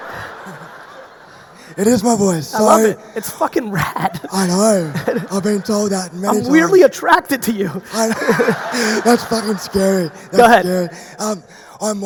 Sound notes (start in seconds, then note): 0.0 audience laughing; 7.5 audience laughing; 9.5 laughs